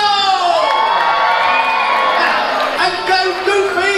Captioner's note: crowd cheering